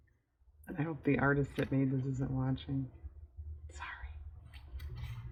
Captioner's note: whispers